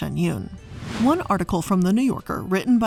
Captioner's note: air whooshing